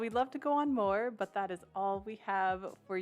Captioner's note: none